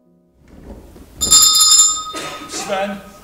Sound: bell Rings

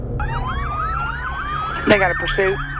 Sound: sirens

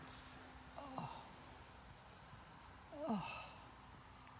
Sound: moans

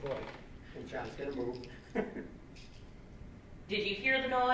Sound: laughs

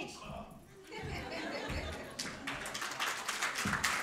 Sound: laughter; applause

